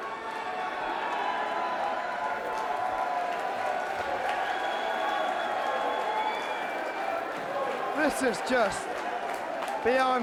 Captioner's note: crowd cheering